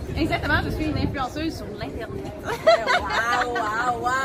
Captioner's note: laughs